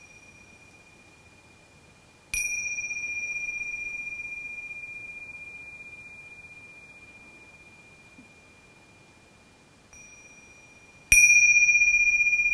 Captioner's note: bell ringing